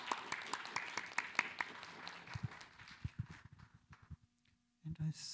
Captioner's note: applause